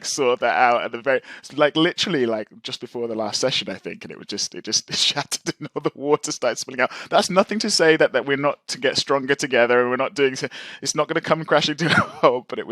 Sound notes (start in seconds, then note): 5.6 laughs